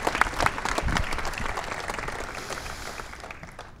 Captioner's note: applause